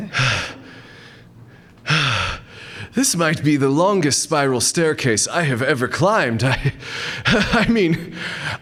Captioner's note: huffing